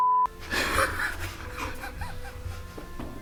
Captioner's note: laughs